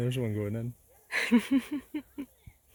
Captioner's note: laughs